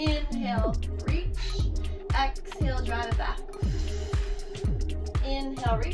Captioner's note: exhales